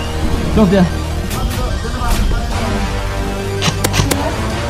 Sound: instinctively chatter

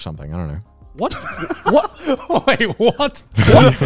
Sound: laughs

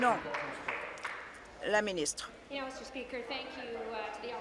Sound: applause

